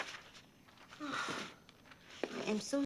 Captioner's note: pages flipping